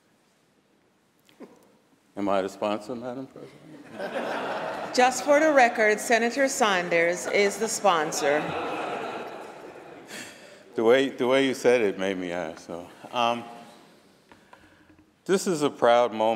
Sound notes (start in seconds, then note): 9.8 laughter